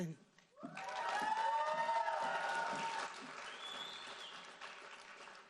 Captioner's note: audience cheering and applauding